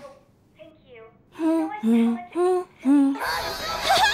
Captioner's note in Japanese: 鼻歌